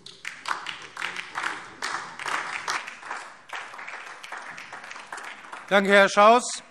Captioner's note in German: Beifall DIE LINKE und vereinzelt SPD